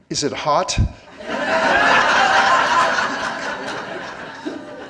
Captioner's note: laughing